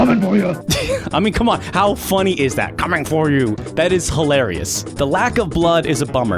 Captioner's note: chuckles